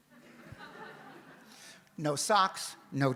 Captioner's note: audience laughs